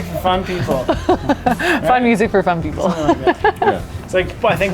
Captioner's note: laughs